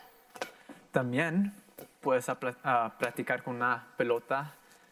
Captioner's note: in foreign language